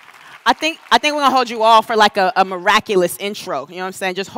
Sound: applause

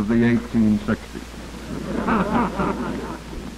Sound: laughter

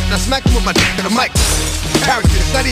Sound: slapping; glass shatters

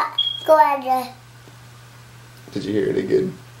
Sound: fire alarm chirps

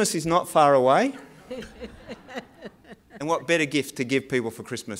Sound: laugh

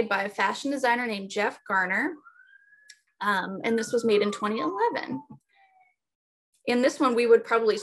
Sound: ambulance siren

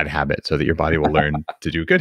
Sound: laughs

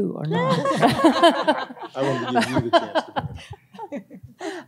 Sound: group laughs

